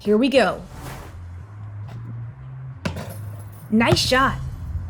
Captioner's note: ball hits the backboard, and chained net rattles